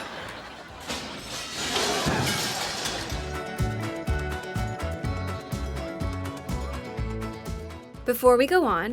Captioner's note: crashing sound